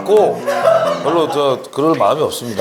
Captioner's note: ah ha ha ha ha